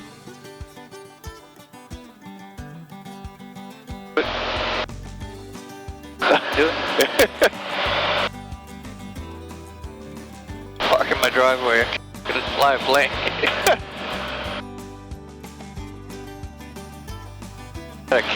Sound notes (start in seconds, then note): 0.2 upbeat acoustic music; 6.6 laughing; 13.8 laughing; 17.3 upbeat acoustic music